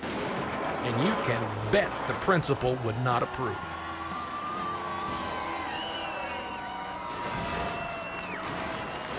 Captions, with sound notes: and you can bet the principal would not approve. (crowd cheering)